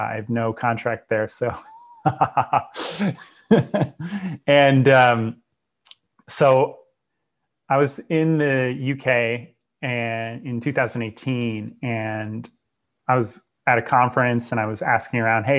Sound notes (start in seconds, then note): 1.5 laughs; 5.6 clicks tongue